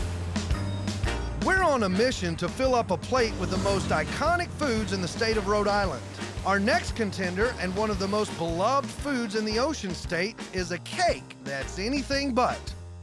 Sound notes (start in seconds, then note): none